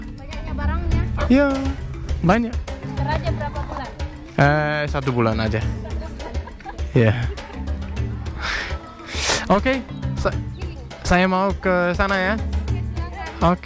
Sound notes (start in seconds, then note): 5.6 laughing